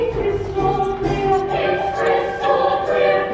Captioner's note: whispering